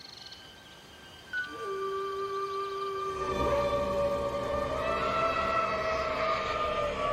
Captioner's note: spooky sound effects